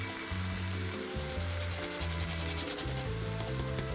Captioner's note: grating